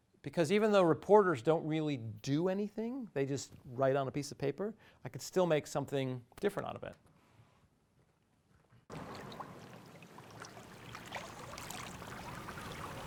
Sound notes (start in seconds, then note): 8.9 water splashing